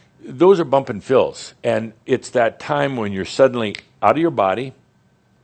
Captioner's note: snap!